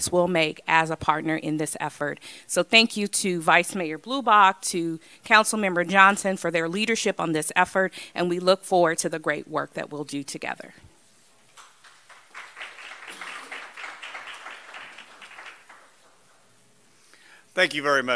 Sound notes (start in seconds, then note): 11.6 applause